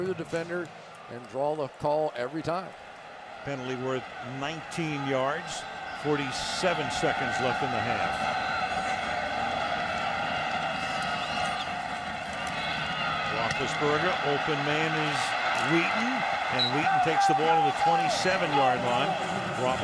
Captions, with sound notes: go back through the defender and draw the call every time. Penalty worth 19 yards. 47 seconds left in the half. [cheering] Roethlisberger. Open man is Wheaton. And Wheaton takes the ball to the 27-yard line.